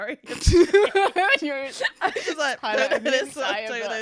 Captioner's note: laughs